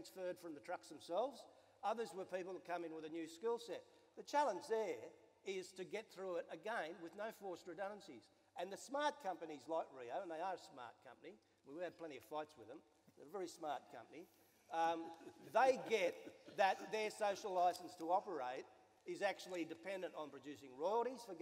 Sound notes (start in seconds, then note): 16.2 some laughter